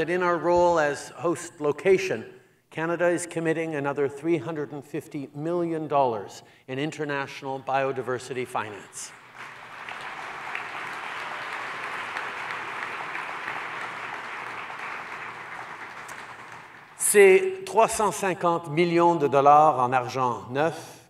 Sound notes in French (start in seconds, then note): 8.9 Applaudissements